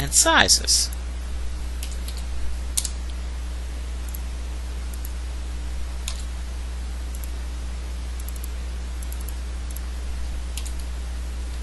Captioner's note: typing